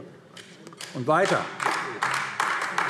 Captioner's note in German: Beifall AfD